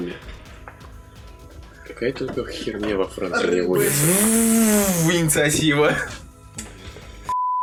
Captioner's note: chainsaw noises